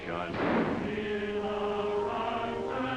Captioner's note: gunshot